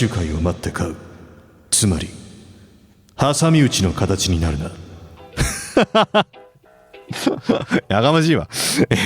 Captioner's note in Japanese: 笑い